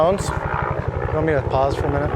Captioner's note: helicopter whirring